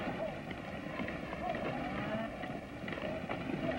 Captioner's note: mooing